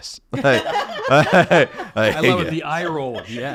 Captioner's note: group laughing